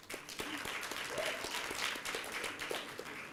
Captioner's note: applause